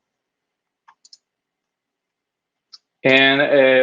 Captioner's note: mouse clicks